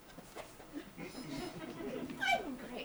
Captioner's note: audience laughs